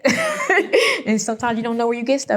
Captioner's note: laughs